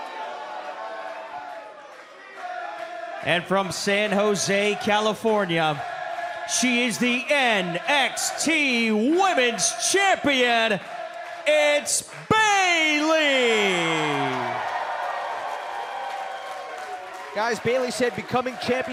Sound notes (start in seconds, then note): 0.0 cheers & boos; 3.1 fans chanting; 14.1 cheers & applause